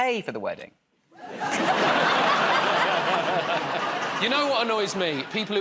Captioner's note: laughter